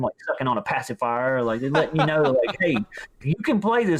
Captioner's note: laughs